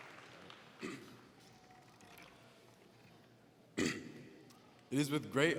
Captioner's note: clearing his throat